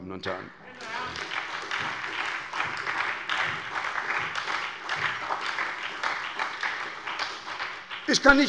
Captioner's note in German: Beifall bei der SPD